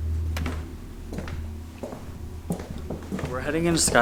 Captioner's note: footsteps